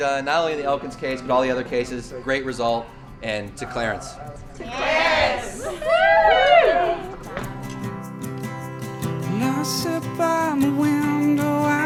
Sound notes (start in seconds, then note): 4.7 cheering; 8.6 light music